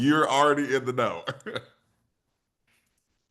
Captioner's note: chuckles